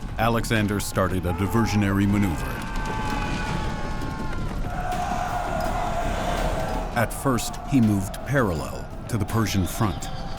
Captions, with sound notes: Alexander started a diversionary maneuver. [cheering] [screams] At first he moved parallel to the Persian front.